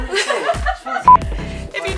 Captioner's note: all laugh